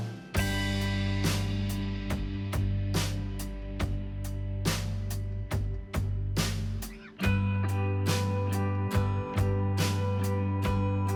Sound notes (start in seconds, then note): none